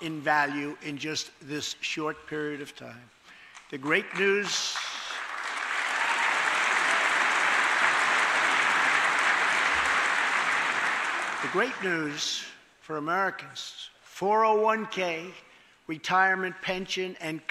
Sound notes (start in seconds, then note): 3.5 applause